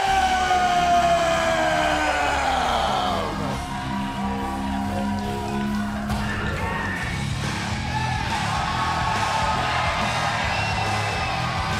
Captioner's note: crowd cheering